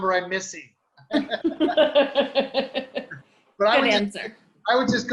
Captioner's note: laughing